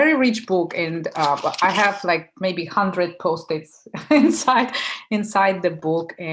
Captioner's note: laughing